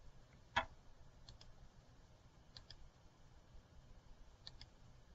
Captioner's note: computer mouse clicks